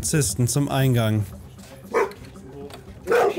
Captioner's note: barking